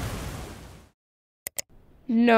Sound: click!

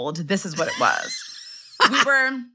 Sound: laughs

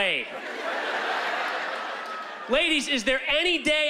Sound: laughter

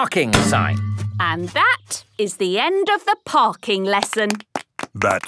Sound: clapping

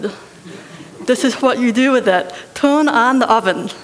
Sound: laughter

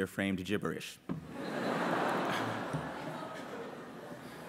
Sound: laughter

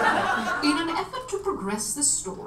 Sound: audience laughs

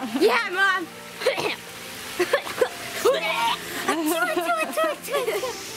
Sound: fake coughing and sneezing

